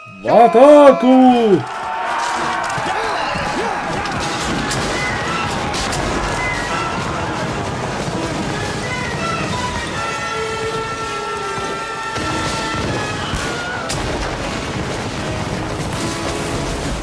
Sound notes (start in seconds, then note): 1.3 yelling; 4.6 explosions & gunfire